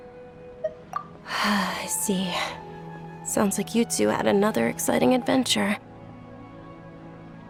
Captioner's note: sigh